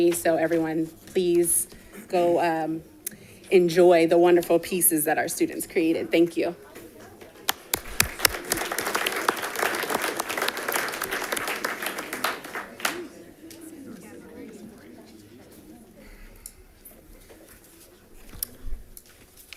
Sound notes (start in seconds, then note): 7.4 audience applauding; 13.1 distant chattering